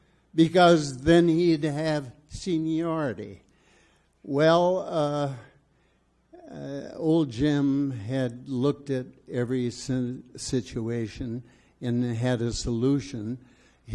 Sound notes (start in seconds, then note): none